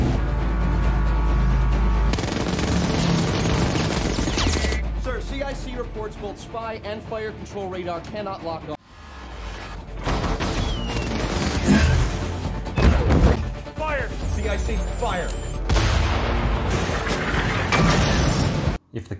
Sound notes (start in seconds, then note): 2.0 machine guns firing; 9.5 explosions; 15.7 explosions